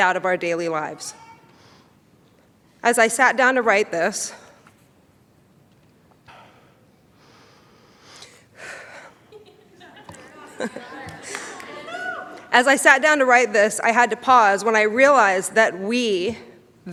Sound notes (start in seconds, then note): 7.6 sighs; 9.0 laughs